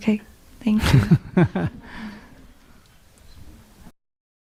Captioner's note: laughter